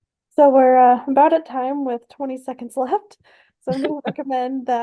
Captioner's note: laugh